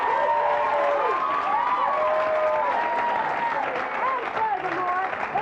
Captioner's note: audience applauds